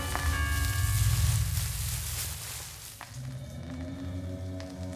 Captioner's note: footsteps on above floor